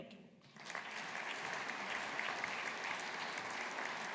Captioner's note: audience applauding